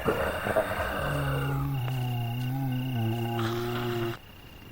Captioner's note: zombies moaning